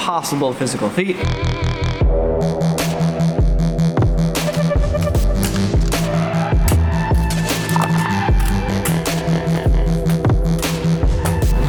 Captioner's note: music and mags hitting floor